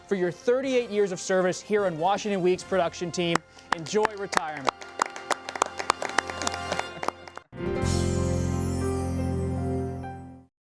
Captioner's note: applause